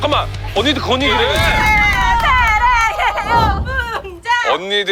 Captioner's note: those ladies cheering in the restaurant